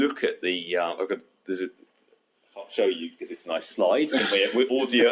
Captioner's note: laughs